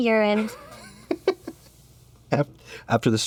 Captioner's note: chuckles